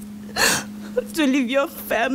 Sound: sniffle

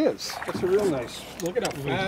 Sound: fish splashing

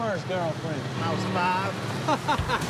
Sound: laughter

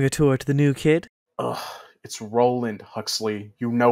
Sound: sigh

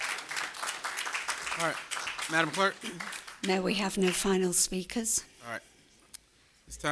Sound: applause

